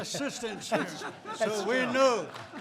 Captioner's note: laughter